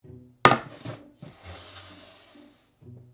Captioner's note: board sliding; quirky music playing in background throughout video